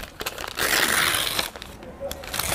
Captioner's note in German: Rascheln